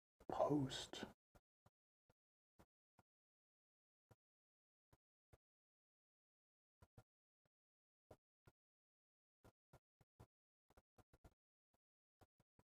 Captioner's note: silence